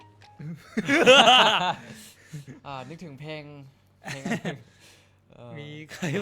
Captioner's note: looks at each other and laugh